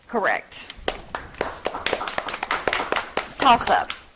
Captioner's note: audience clapping